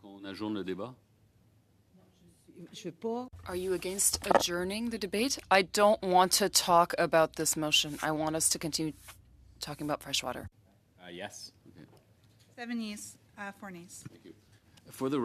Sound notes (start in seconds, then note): 5.2 speaking French